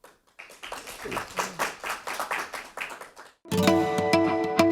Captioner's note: applause